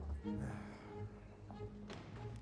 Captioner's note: sighs